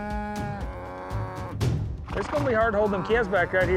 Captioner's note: cows mooing